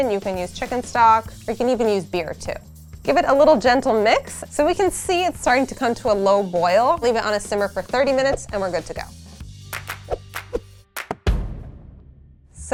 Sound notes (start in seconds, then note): 9.6 upbeat clapping; 10.9 drum beating